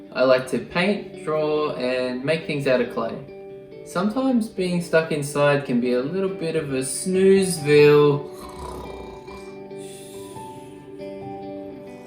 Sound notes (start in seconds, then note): 8.2 snoring